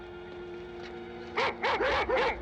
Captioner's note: dog barking